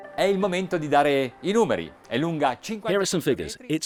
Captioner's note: speaking Italian